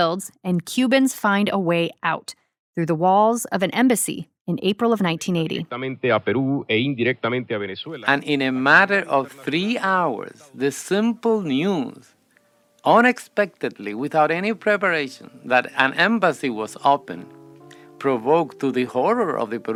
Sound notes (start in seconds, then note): 7.5 archival news audio; 8.1 speaking Spanish; 9.0 archival news audio; 13.9 archival news audio